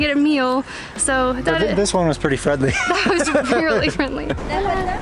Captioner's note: laughter